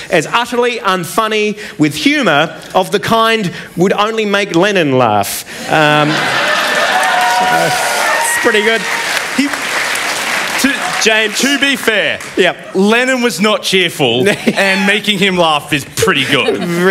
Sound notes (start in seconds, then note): 11.0 applause